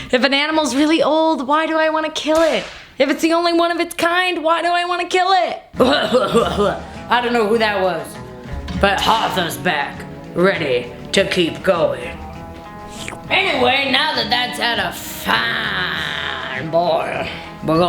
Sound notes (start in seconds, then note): 5.7 coughs; 9.2 western music; 12.1 slurps